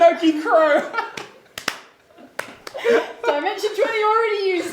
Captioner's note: clapping